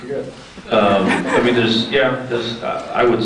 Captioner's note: scattered laughs